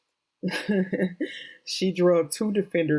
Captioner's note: chuckles